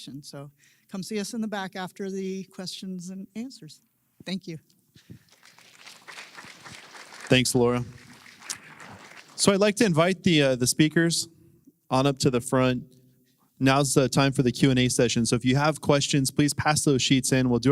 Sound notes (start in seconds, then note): 5.0 applause